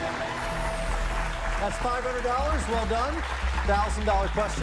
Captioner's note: cheers and applause